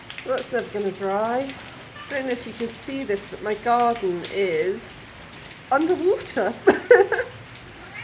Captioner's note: laughing